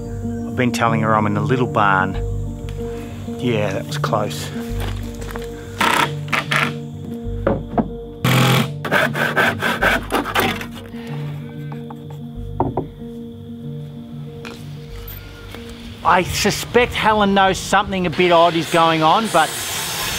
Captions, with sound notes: I've been telling her I'm in the little barn. Yeah that was close. [various tool sounds] I suspect Helen knows something a bit odd is going on but,